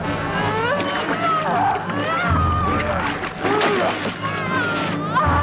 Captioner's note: villager grunting; villager screaming